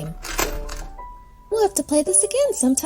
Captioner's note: metal clanking